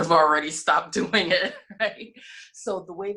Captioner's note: laughs